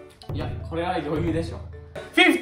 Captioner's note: confident